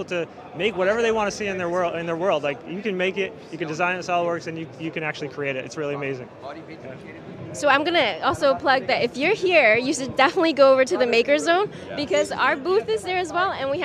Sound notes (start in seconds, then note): none